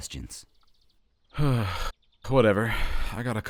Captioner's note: TOSHIO sighs